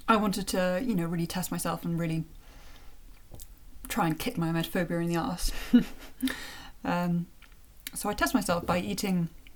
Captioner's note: chuckle